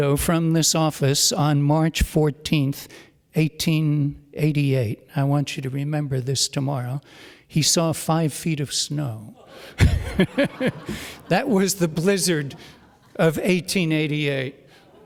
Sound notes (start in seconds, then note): 9.3 audience laughs